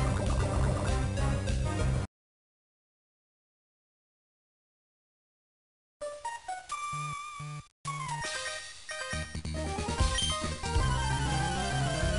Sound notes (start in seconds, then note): 2.3 ♫ No music, just silence; 5.9 ♫ Regular game music again